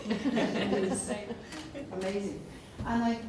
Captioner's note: laughing